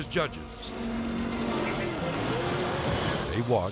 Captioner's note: boat buzzing; edgy dramatic music